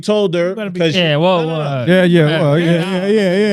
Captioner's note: speaking In Foreign Language